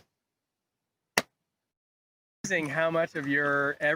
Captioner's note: balloon pops